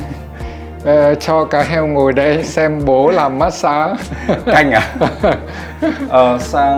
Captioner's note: laugh